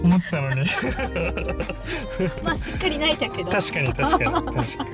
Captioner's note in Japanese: 笑い